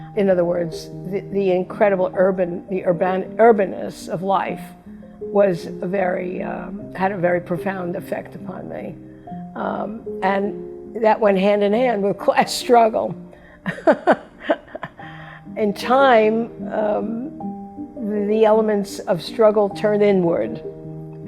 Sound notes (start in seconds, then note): 13.6 Vivian laughs